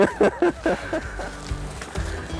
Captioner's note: laughter